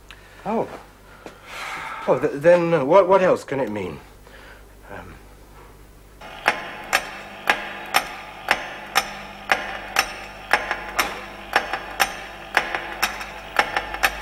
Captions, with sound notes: Oh. Well, then, what...what else can it mean? Um... (Clock ticking) (Ticking)